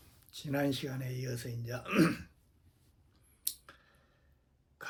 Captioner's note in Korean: 목을 가다듬음